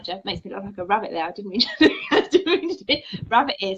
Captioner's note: laughs